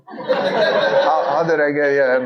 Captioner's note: audience laughing